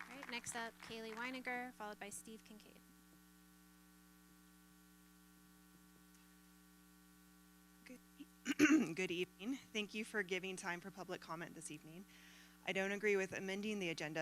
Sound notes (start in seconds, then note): 2.6 applause